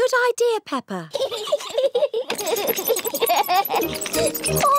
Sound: both giggling

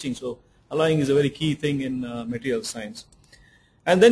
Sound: none

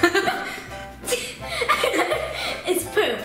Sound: laughs

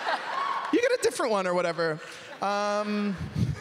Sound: laughter

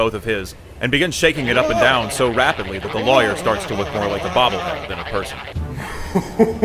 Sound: cartoon shaking noises

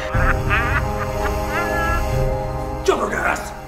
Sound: Joker laughing

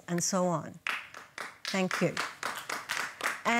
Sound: scattered applause

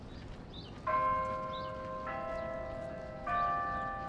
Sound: bell tolls

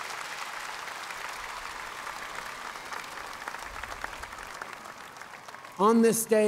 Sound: cheers & applause

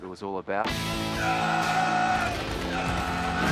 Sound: screaming

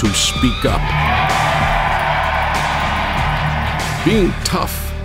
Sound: cheering

